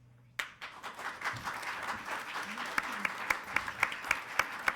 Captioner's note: attendees applauding